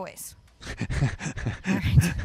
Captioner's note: laughs